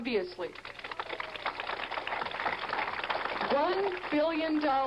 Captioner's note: crowd applause